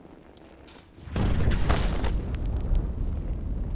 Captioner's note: flames roaring